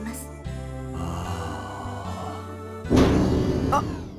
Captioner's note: sigh